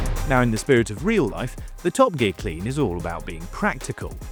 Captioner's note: none